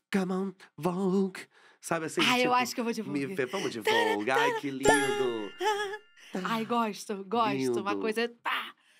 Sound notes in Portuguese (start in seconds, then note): 0.1 cantando; 5.4 cantarola